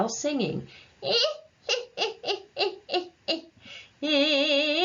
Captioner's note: demonstrates Cackle